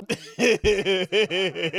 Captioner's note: laughing